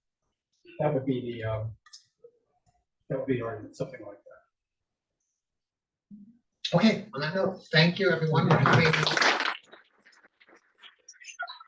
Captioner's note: applause